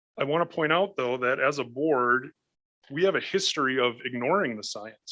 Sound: none

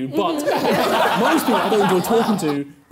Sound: laughing

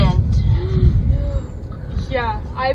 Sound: team gasping

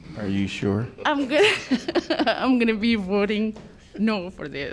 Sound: laughter

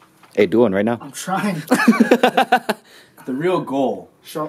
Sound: laughs

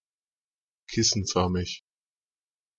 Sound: fast Pronunciation

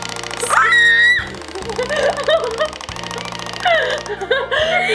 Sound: screams

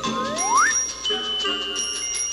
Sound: bell chiming; slide whistle; bell chiming

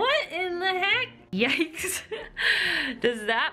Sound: laughter

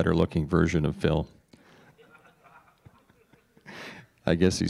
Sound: laughter

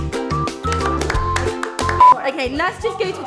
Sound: bright music; hands thumping

